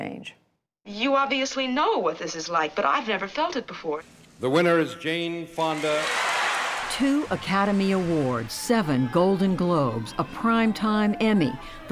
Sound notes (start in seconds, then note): 5.6 cheering and applause